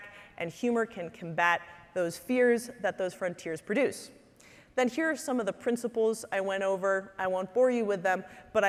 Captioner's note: none